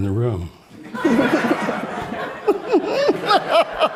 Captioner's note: all laughing